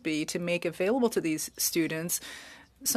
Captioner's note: speaking French